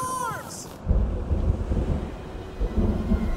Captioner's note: thunder rumbles